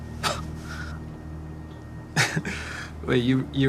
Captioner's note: John scoffs